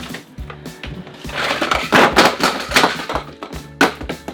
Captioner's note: rattling